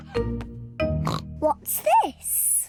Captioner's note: oinks